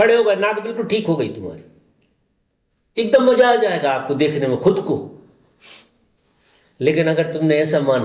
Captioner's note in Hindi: नाक से की जाने वाली आवाज़